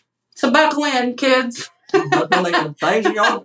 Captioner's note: laugh